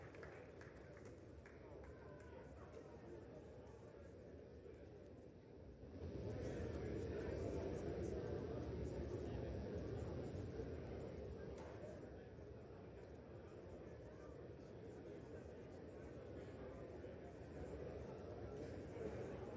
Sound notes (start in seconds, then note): 3.0 applause